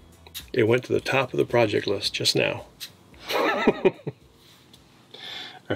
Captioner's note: laughs